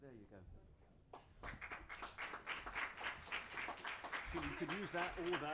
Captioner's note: audience clapping